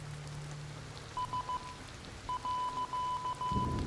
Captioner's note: beeping